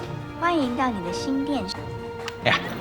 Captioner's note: TV speaks Mandarin